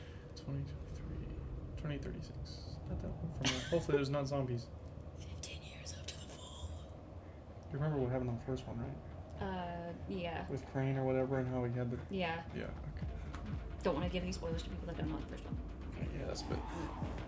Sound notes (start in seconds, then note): 5.6 whispers